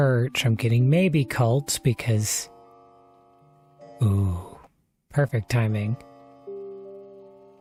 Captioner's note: clocks chime